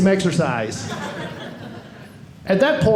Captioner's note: audience laughing